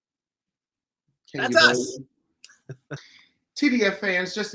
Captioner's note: chuckles